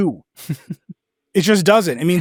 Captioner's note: laughs